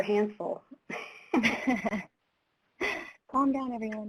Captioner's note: both laughing